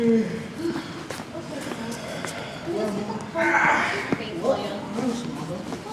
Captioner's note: crowd groans and yawns